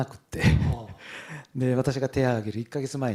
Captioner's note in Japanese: 笑い